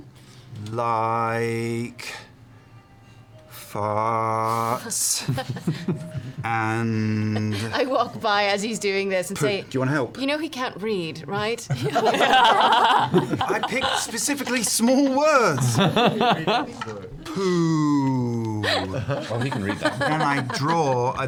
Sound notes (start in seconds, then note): 12.2 laughs; 15.4 laughter